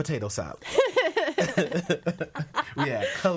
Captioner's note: all laughing